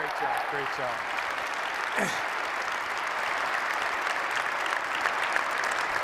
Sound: applause

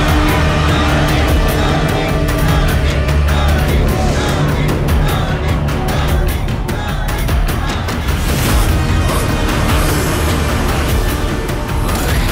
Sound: crowd Cheering

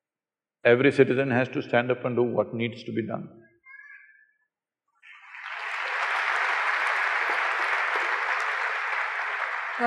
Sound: applause

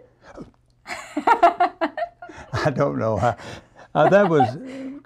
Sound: laughter

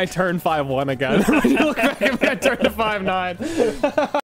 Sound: laughter

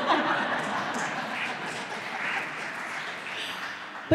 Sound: laughter

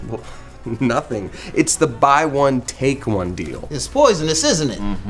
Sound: laughs

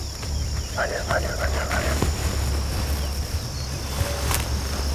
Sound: whispering

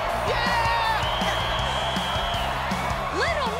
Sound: whistle blowing

